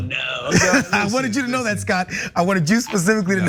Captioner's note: laugh